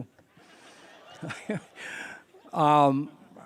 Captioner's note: laughter